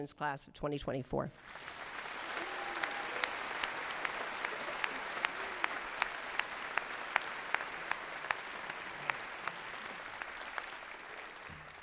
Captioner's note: applause